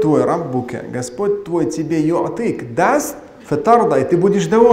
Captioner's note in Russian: говорит на арабском